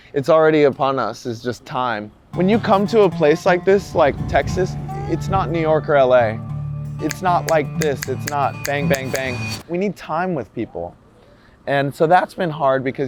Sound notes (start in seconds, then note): 6.1 soulful country music; 7.1 speaker snaps